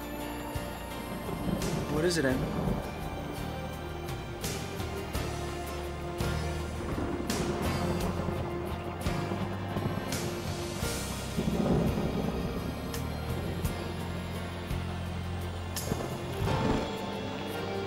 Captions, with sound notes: - What is it, Amber? (thunder roars) (soft music)